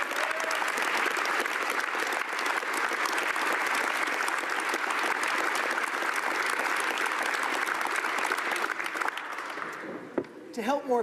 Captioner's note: applause